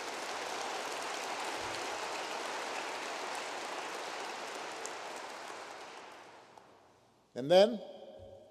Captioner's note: applause